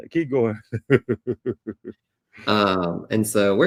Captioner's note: laughs